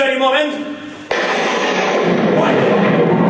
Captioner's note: lightning strike